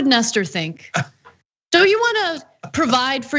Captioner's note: laugh